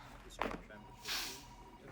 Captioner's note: sniffs